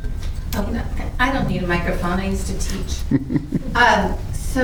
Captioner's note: chuckles